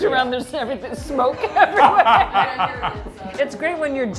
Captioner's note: laughs